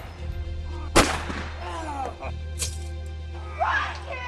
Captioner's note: gun firing; guns firing